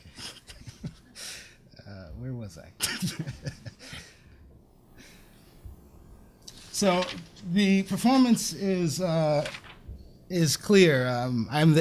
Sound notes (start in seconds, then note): 2.8 laughs